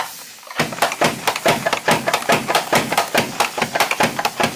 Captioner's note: mandoline thumping